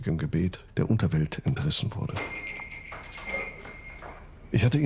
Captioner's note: doorbell jingles